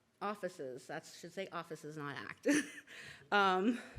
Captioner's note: laughs